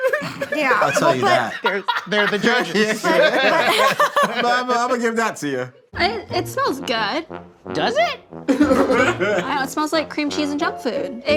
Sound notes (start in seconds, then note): 0.0 laughing; 3.7 laughs; 8.4 all laughing